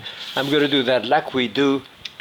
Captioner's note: pan sliding